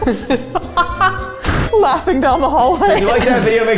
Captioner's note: laughing